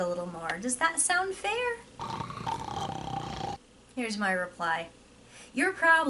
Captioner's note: snoring sound